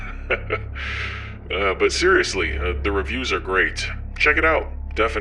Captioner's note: laughs